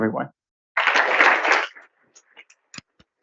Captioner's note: applause